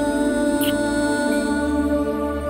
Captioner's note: Kissing